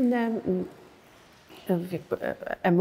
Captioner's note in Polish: cisza